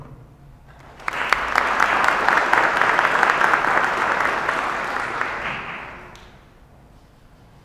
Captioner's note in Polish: oklaski